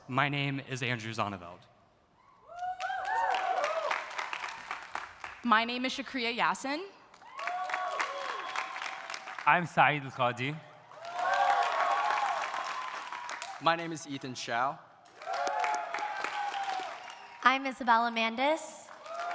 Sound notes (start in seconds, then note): 2.5 audience cheering; 2.7 audience applauding; 7.1 audience applauding; 7.2 audience cheering; 10.8 audience applauding; 10.9 audience cheering; 15.0 audience applauding; 15.1 audience cheering